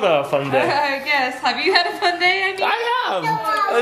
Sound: laughs

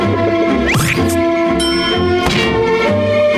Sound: dinging

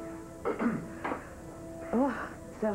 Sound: Quelqu'un se racle la gorge la sortant de ses pensées

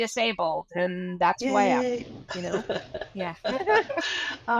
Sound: laughs

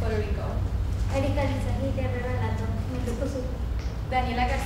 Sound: talking

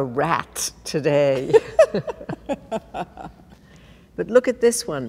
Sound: laughing

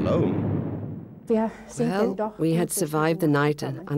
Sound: speaking in foreign language

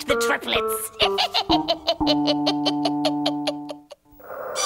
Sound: witch laughs; suspenseful music

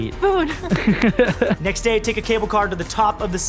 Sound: laughs

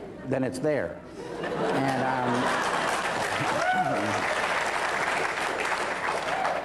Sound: laughter, then applause

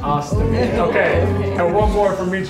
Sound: all laughing

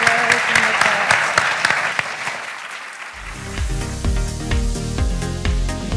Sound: applauds

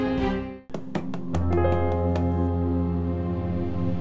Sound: taps desk

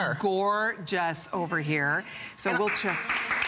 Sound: applause

